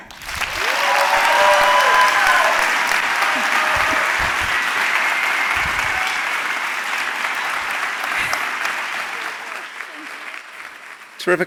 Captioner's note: applause